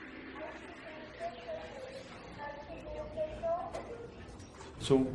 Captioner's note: overhead hospital paging